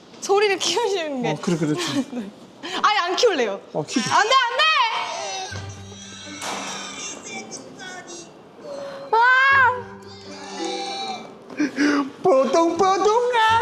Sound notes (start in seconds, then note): 4.5 waah